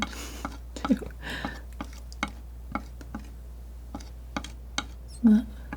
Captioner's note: tapping